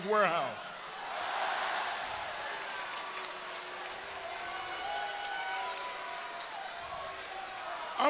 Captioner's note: applause